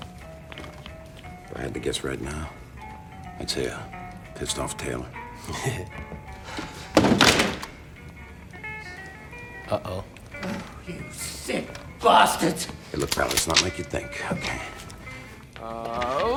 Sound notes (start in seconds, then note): 6.1 chuckles; 16.1 grunts